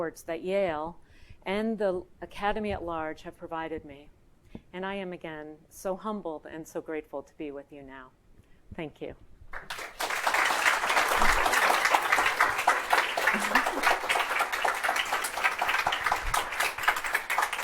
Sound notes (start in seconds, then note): 9.5 audience applauding